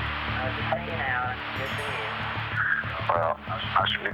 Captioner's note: on phone